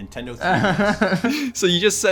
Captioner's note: laughs